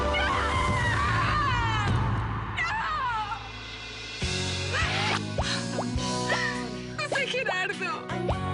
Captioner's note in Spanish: Música intensamente dramática; Gritos de Ana Cristina